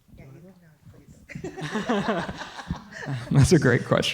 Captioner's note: laughter